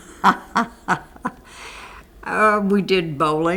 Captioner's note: laughter